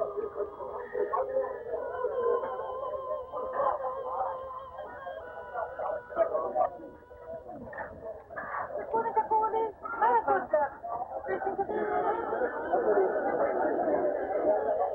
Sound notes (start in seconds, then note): 3.3 voices speaking in Hebrew